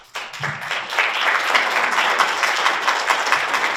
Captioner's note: audience applauds